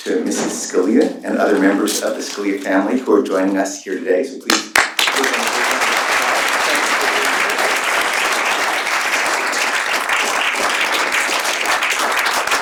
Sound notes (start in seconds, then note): 4.2 applause